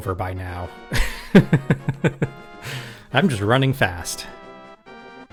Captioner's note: laughing